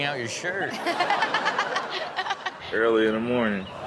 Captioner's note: Chanel laughs